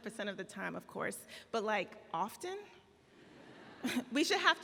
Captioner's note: laughing